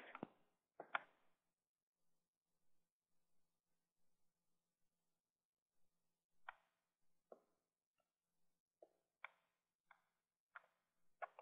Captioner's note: typing Sounds